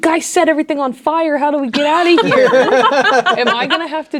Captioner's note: players laughing